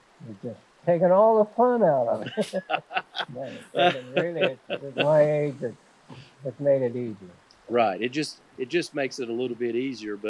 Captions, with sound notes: They're just taking all the fun out on it. (both laughing) With my age, it's made it easier. It just makes it a little bit easier,